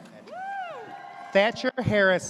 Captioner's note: audience cheers